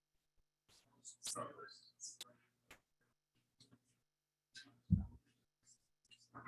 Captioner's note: people chattering indistinctly continues